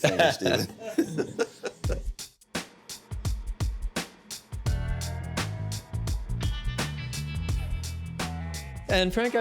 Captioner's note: laughter